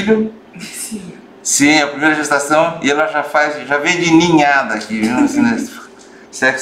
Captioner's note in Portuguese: risos